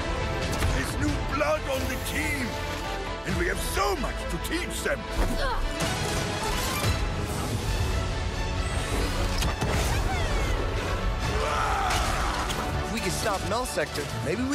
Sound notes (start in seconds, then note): 10.6 reinhardt yelling